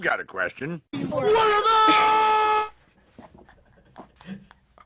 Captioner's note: cracking up